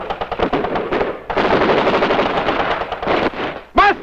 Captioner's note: guns firing